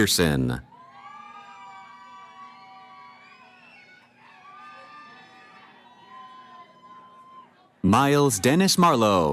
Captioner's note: cheering